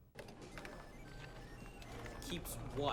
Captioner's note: computers beeping